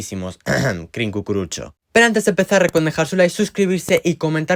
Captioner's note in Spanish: carraspeo